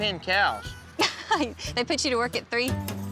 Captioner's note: laughs